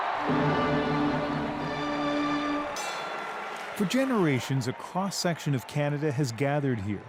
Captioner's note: cheers and Applause